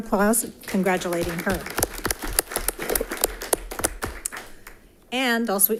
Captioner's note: audience applauding